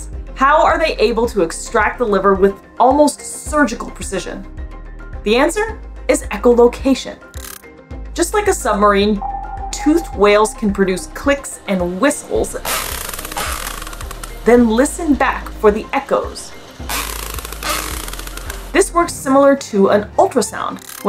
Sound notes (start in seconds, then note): 4.5 background music; 7.3 background music; 12.5 background music; 12.9 whale echolocation noises; 16.6 background music; 16.9 whale echolocation noises